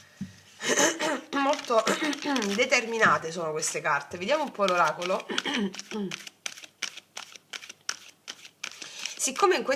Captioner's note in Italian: schiarire la voce